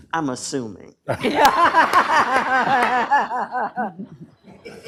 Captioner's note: laughter